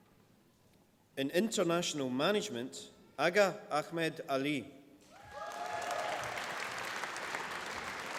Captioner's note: applause